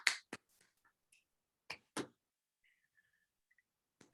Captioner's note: clapping